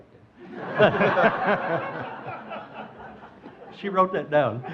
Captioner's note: audience laughing